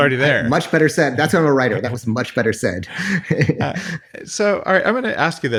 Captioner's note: laughs